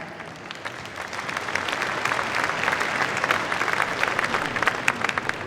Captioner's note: applause